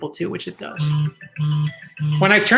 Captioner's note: phone ringtone playing